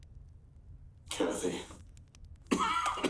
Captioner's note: coughs